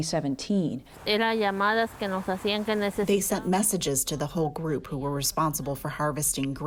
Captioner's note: through translator